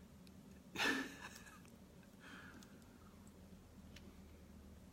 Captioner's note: laughing